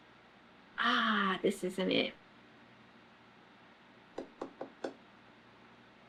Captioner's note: taps fingers